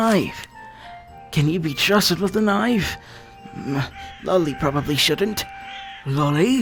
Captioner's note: grumble